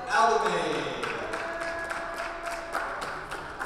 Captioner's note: clapping